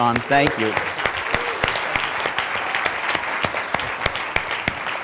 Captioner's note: applause